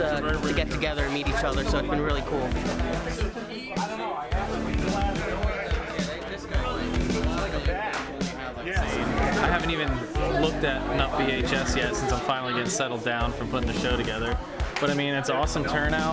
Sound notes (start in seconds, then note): 3.8 indistinct chatter